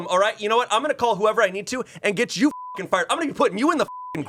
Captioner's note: beep